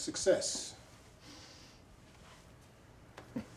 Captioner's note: sniffs